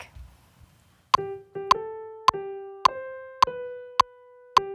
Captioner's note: metronome